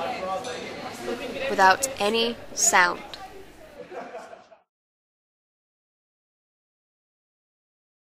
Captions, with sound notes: without any sound [background chatter fades]